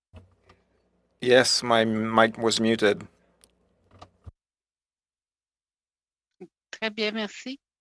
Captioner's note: speaking French